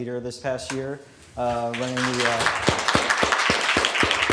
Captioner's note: applause